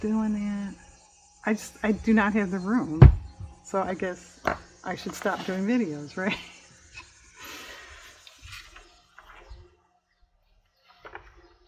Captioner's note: laughs